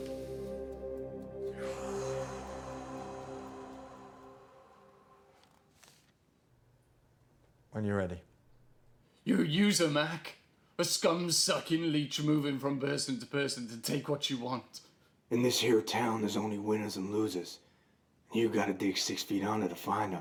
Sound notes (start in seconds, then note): 1.6 Larry exhales